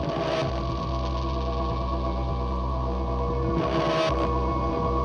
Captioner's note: intermittent buzzing